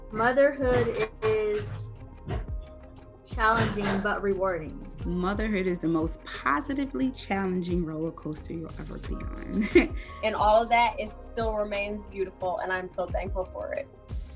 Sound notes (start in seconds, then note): 9.5 chuckles